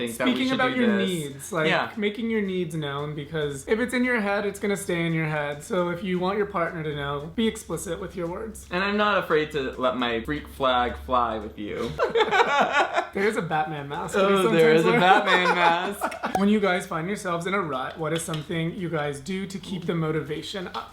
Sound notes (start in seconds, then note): 11.8 laughing; 14.7 laughs